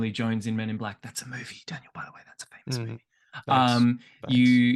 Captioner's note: whispering